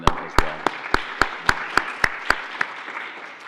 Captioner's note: applauding